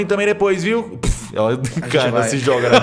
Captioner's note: poof